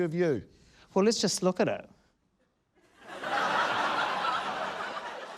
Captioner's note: laughter